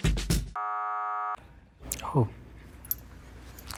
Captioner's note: buzzer sound